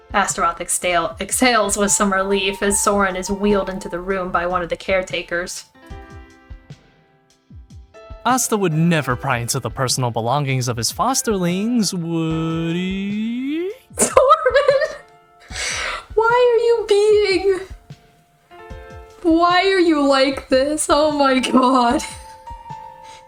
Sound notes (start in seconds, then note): 14.0 laughing; 14.0 snorts